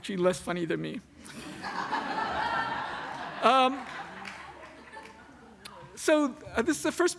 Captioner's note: laughter